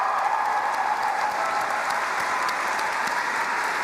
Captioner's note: applause